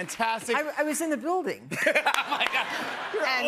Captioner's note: laughing